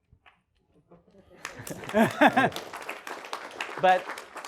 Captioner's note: applause